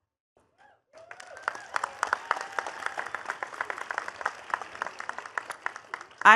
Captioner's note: attendees cheering and clapping